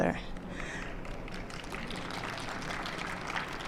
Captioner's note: applause